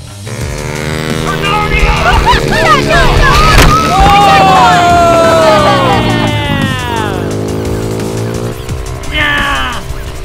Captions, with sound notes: - [Voiceover] Go go go go! And Jack won! (laughing) - Yeah! Yeah!